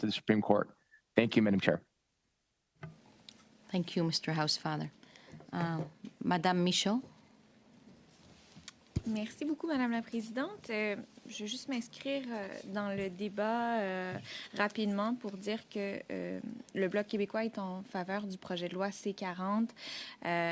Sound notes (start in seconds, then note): 15.8 speaking french